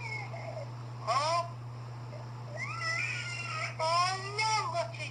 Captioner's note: baby Crying